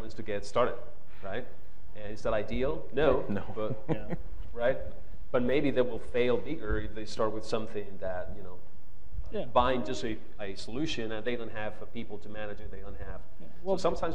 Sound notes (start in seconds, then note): 3.2 laughs